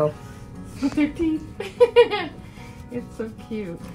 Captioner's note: laughing